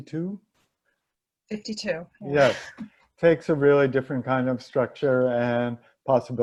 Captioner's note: laugh